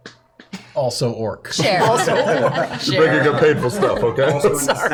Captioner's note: laughter